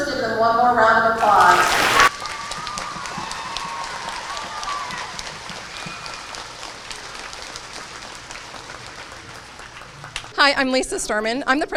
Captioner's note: applause